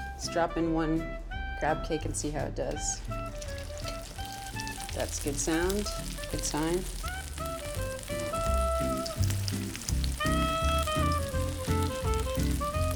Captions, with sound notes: let's drop in one crab cake and see how it does. (pan sizzles) That's good sound, good time. (bright upbeat music continues)